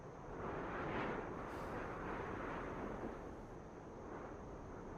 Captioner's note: strong wind blows